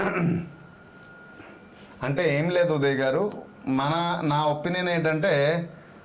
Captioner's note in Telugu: గొంతు సవరించుకోవడం